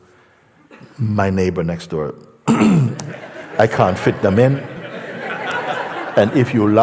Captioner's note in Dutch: gelach